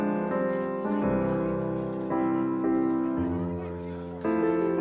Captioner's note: none